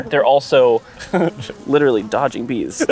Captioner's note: bees buzzing; laughing